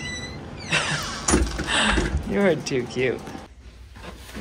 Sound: laughs

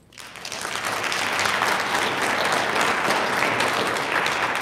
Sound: audience applauding

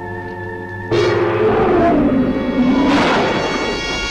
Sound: creature growling

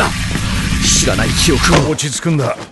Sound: electrical sounds

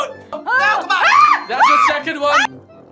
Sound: screams

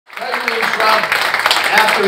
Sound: audience applauding

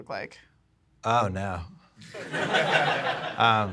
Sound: audience laughs

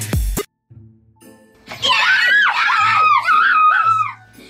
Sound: boys cheering

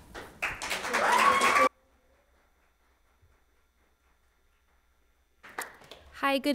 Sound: audience applauds; people cheer

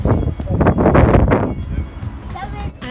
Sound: wind screams

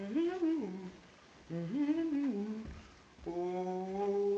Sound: humming

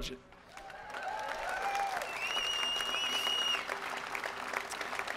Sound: crowd applause

